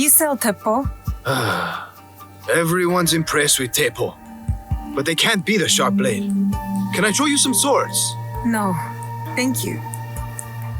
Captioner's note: sighs